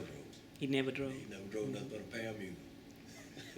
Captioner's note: laughs